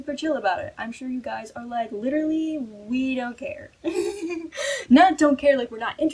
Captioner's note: laughs